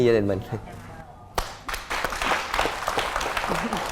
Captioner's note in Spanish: aplauso